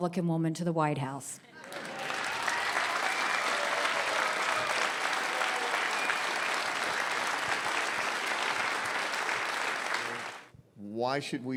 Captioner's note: audience applause